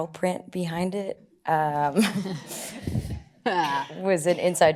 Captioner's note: laugh